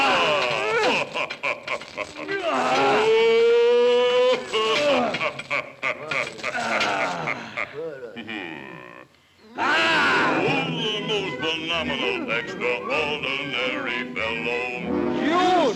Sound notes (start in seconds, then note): 0.1 Sinbad laughing; 0.1 creature grunting; 9.5 creature cries out